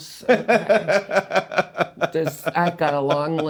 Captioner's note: laughing